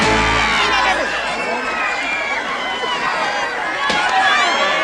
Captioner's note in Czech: hluk rvačky